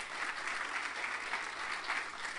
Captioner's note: applause